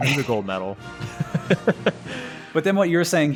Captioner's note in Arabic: يضحك